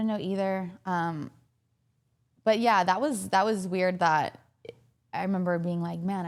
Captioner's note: none